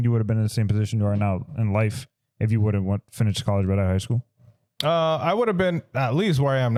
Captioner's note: none